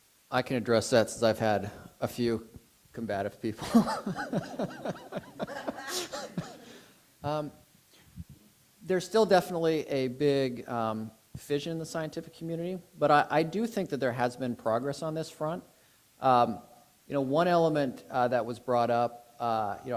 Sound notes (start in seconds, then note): 3.6 and audience laughs